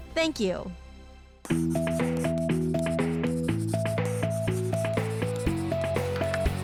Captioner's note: upbeat music; pencil scraping